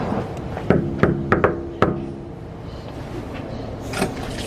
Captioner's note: knocking on door